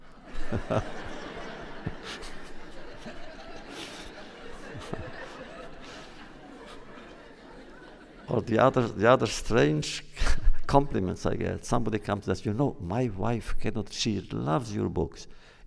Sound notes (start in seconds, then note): 0.0 laughs, laughter; 9.5 laughs